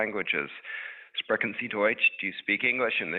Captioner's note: speaking in a foreign language